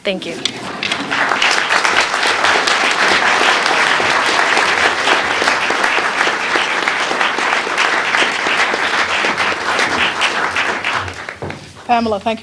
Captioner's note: applause